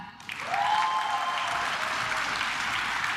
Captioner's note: claps